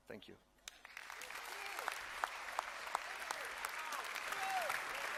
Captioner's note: applause and cheers